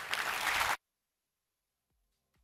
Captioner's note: applause